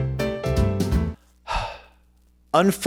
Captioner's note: sighs